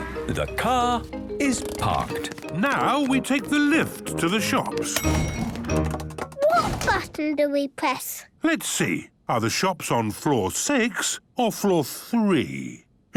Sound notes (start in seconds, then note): 1.3 handbrake cranking; 4.8 door dings open